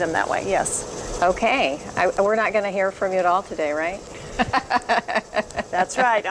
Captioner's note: laughs